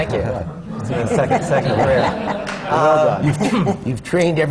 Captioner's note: laughter